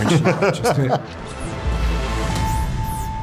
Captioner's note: laughs